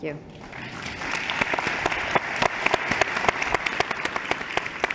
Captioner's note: applause